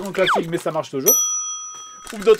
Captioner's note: ding!